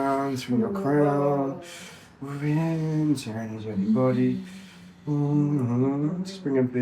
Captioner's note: moaning